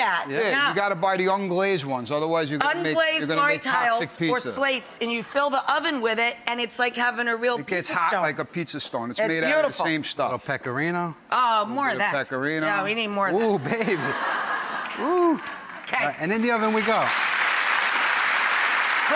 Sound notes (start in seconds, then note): 13.7 laughing; 18.1 applause